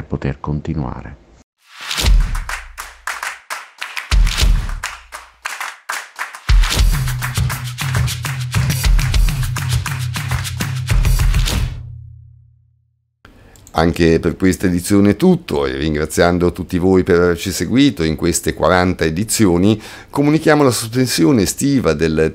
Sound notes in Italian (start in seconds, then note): 2.1 Applauso